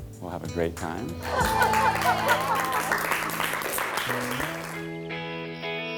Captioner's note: women cheering and applauding